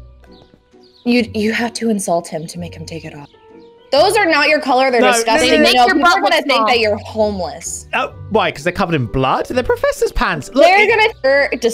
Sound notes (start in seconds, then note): none